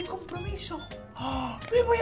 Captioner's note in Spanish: Sorprendido